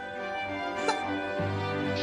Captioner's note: <i> laughs</i>